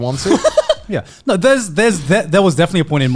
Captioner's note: laughing